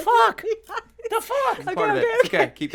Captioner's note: laughs